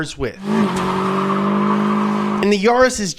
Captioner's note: engine revving